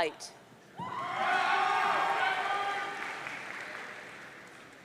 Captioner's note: audience cheering